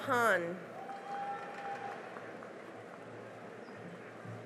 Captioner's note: cheering and applause